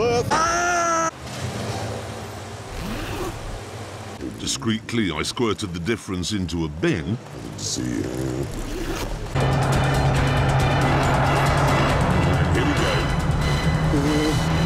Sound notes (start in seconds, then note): 2.7 unzipping noise; 8.2 zipping noise